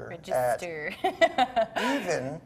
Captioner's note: laughs